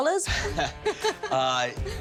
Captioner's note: laughter